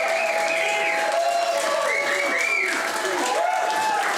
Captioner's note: cheering